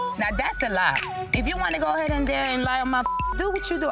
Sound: beep

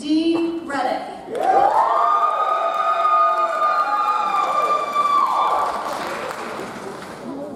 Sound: audience cheers; audience applauds

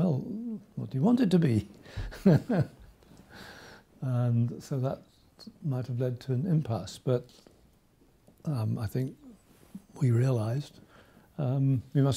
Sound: laughs

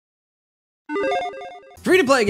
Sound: logo beeps

